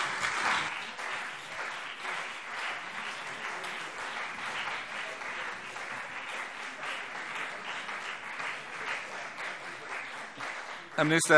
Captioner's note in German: Beifall CDU und BÜNDNIS 90/DIE GRÜNEN